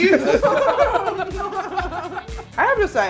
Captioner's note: laughing